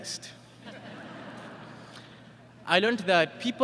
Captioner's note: laughter